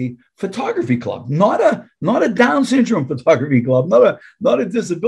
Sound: chuckling

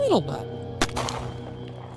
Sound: gunshot

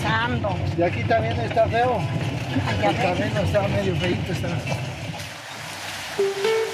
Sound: driver speaking in foreign language

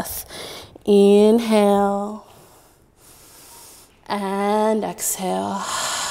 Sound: inhaling; exhaling

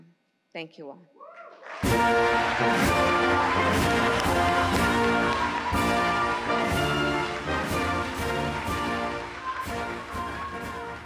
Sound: applause

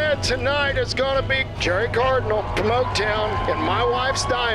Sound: crowd cheers

